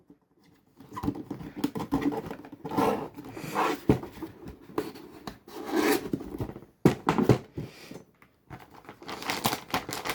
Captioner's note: motherboard box noises